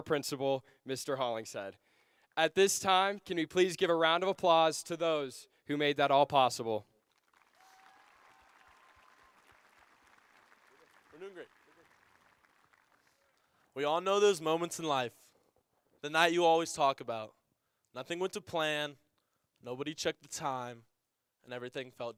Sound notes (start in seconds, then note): 10.0 applause